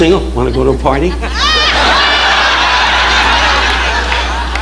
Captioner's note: audience laughing